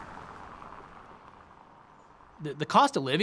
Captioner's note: car drives